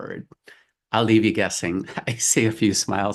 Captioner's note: laughs